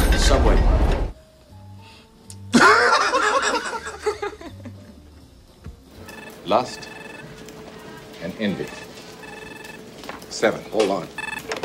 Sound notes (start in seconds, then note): 2.5 laughs; 9.3 phone rings